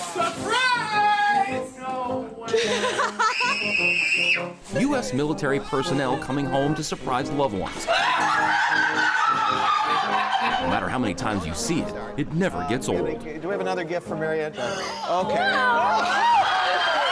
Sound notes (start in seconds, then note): 2.5 woman laughs; 3.2 girl screams; 7.9 woman laughs